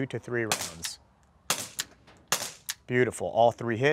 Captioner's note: gun fire